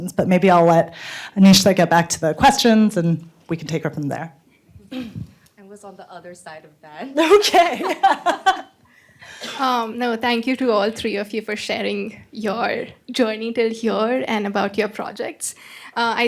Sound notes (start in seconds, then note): 7.2 laughs